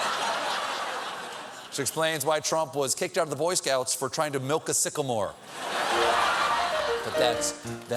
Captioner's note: laughter